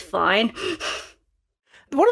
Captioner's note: laugh